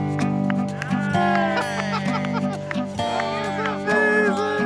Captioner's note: clapping